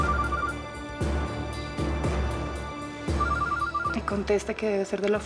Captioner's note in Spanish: Suena el celular